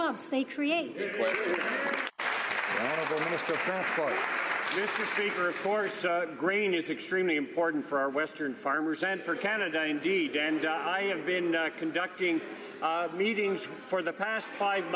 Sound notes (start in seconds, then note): 4.3 some Applause